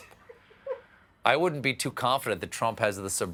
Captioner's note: laughter